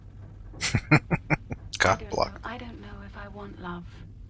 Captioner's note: chuckling